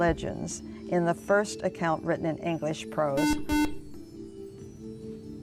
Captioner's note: buzzer